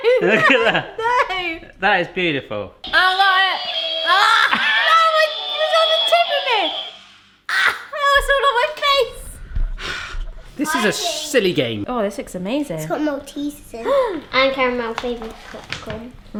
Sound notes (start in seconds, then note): 3.8 dynamic upbeat music; 13.2 gasping